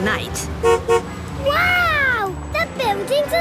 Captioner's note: honks